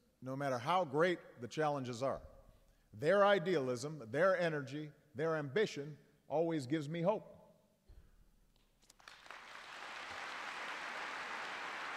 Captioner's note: applause